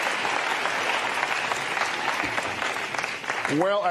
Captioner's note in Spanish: aplausos